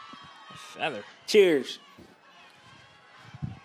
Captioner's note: Nick, softly